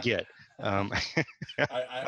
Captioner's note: laughs